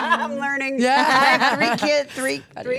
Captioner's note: laughs